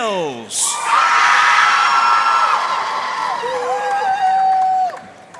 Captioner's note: audience cheering and applauding